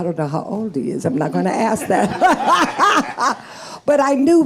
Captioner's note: laughing